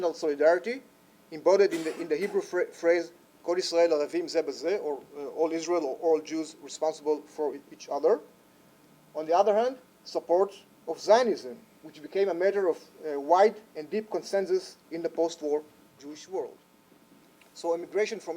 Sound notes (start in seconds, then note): 2.9 speaks Hebrew